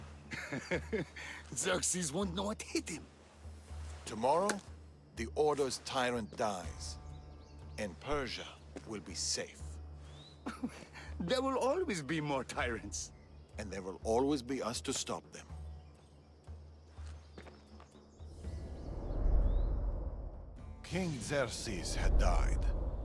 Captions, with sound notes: (laughs) Xerxes won’t know what hit him! Tomorrow, the Order’s tyrant dies... ...and Persia.. will be safe. (laugh) There will always be more tyrants! And there will always be us to stop them. King Xerxes had died...